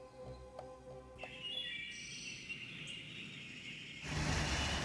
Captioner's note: birds singing